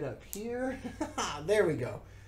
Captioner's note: laughs